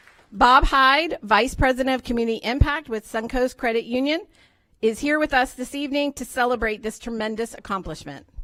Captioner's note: applause